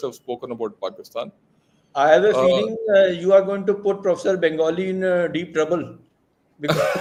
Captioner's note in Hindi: हँसी